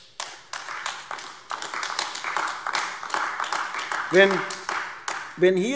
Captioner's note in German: Beifall AfD